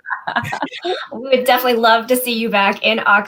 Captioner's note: laughter